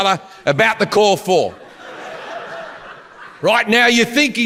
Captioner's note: audience laughs